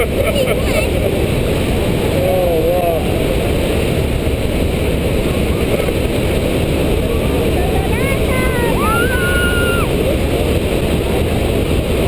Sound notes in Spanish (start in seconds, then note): 0.1 Me riendo